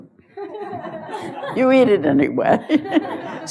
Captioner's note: laughter; laughs; laughter